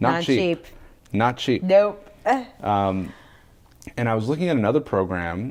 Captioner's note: laughs